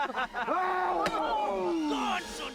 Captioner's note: man grunts; men laugh; man screams